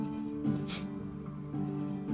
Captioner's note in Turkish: Gülüyor